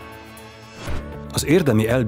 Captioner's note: whooshing sound